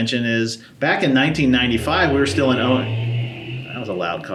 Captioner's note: loud car outside